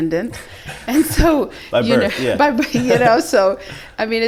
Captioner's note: chuckles